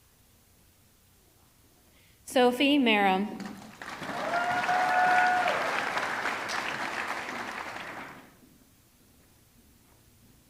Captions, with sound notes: Sophie Maram, (audience clapping) (audience cheering)